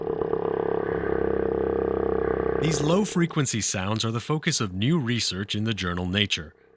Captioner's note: sound of whale